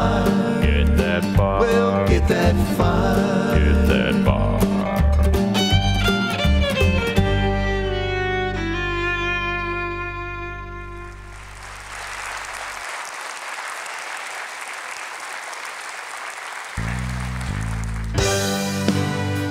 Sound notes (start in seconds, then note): 11.2 applause